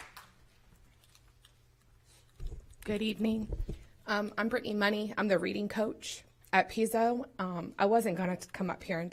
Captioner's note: applause